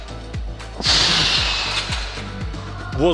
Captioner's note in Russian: Выдох